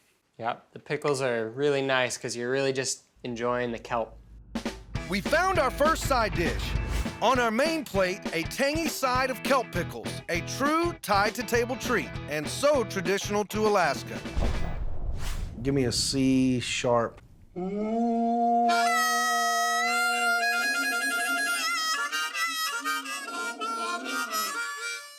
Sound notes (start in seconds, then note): 17.3 horn sound; 18.4 harmonica playing